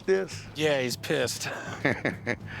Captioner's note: laughter